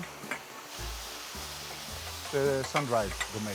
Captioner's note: steam rushing up